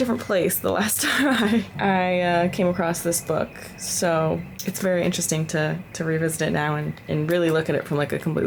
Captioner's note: laughter